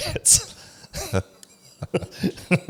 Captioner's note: laughs